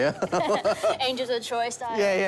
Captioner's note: laughs